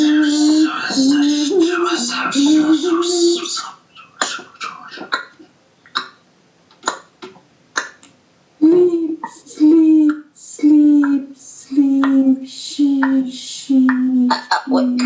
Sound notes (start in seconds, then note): 0.1 whispered & metallic 'Sh, Ts, Tszh, Shw' repeated, layered over humming; 5.5 clock ticking sounds made with the mouth; 14.2 mouth Clicking sounds, high pitched monkey calls layered over 'sheep, sheep'